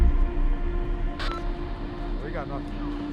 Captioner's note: walkie talkie beeps